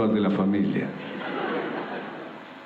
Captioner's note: laughter